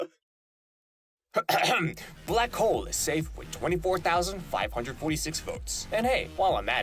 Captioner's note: cough